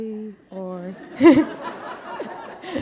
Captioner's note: laughter